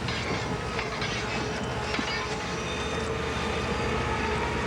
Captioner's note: grinding